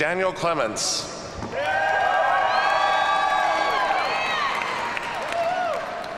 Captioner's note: audience cheers and applauds